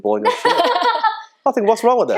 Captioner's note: laughing